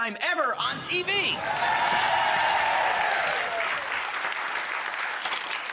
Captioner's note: audience cheers and claps